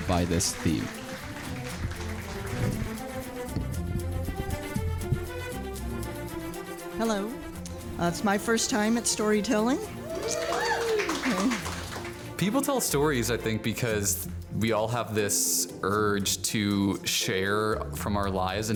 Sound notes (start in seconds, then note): 0.0 crowd claps; 9.9 crowd cheers